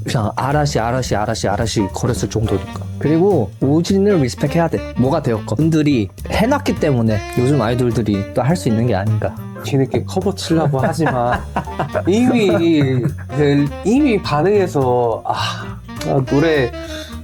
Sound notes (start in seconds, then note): 10.4 laugh